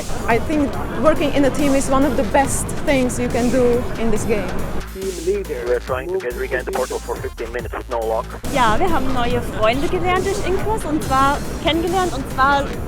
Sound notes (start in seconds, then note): 4.9 radio chatter